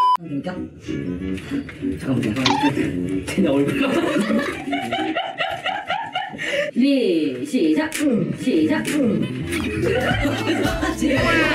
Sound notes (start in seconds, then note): 9.6 cracking up